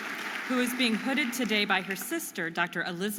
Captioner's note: audience applauding